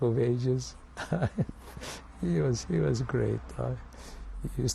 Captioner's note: laughs